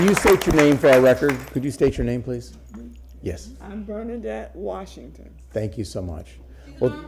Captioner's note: applause